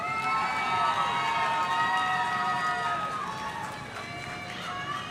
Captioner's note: audience cheering